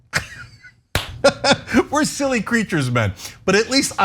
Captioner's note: laugh